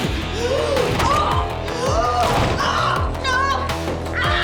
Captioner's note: uptempo rock music continues; Madam Maze grunts